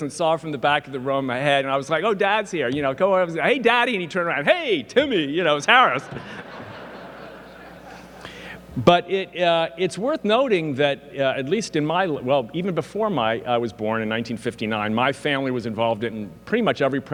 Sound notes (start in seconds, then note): 5.9 audience laughing; 6.0 laughs